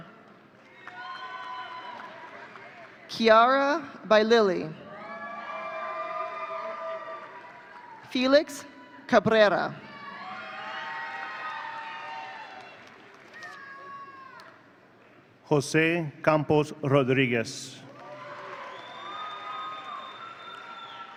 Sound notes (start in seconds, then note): 0.7 audience cheering; 4.9 audience cheering; 9.9 audience cheering; 17.9 audience cheering